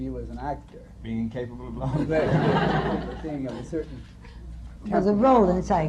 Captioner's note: laughter